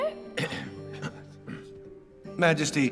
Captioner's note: men coughing softly